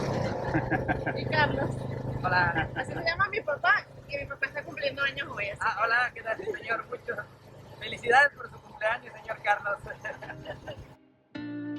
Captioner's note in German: Gelächter